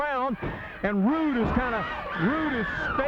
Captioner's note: blows thudding